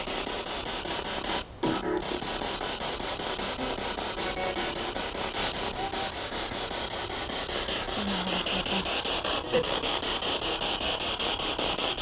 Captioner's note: sound of the Spirit Box in the background